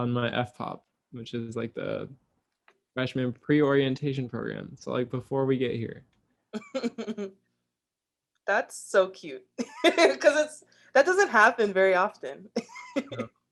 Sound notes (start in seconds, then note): 6.6 laughs